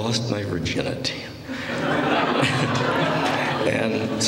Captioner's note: laughter